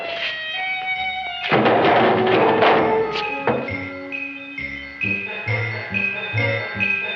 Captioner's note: can clanging